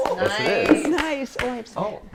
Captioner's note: applause